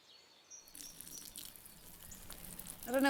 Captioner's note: urine trickling